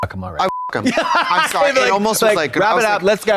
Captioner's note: beep; Katya guffaws